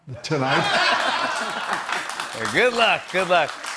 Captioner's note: laughter and applause